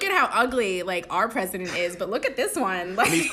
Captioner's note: laughter